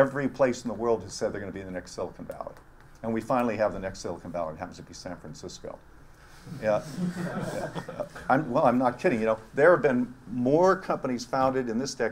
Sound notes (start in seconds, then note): 6.9 laugh